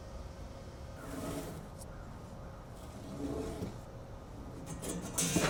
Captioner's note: wood scrapping